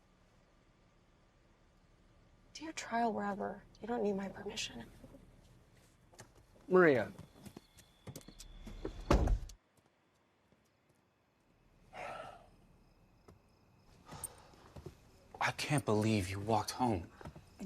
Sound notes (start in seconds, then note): 9.0 car door slams; 11.9 Louis sighs